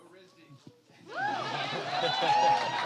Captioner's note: cheering